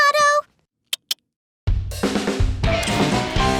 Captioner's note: clicks tongue; rock music